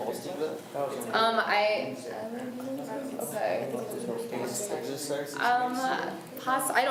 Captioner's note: students talk amongst themselves